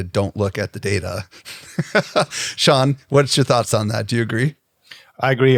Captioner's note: laughs